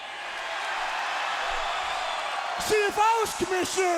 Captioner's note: crowd cheers